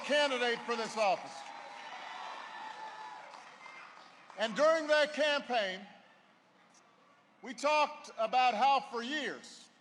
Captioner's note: applause